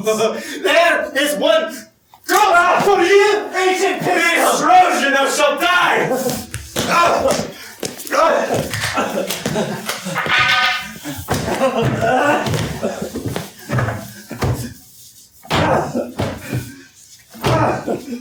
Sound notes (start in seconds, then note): 6.1 sounds of fighting